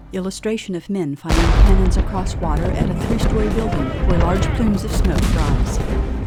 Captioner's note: sounds of large battle